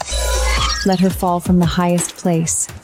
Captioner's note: ticking